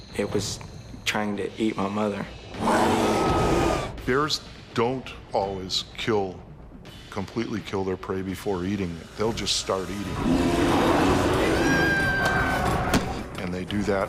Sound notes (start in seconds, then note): 0.0 voiceover; 2.5 bear growling; 2.6 screams; 11.7 screaming